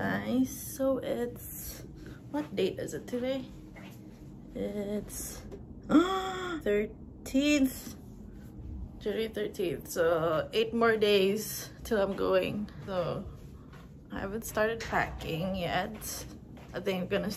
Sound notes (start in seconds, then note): 5.9 gasps